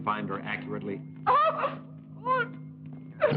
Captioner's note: yell